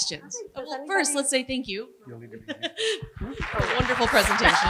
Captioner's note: applause